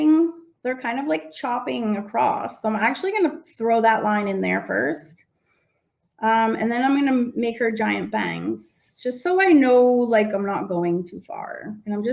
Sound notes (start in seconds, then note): none